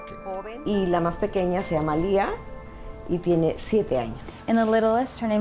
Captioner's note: speaking in Spanish